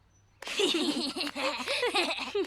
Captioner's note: applause